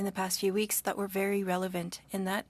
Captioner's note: speaking French